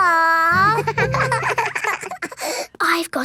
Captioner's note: both giggling